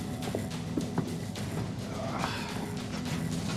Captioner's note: sighs